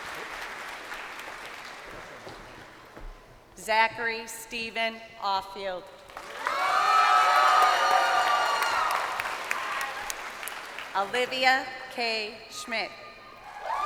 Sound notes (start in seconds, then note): 0.0 crowd applauding; 9.0 crowd cheering